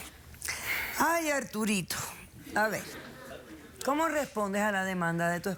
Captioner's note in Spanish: risas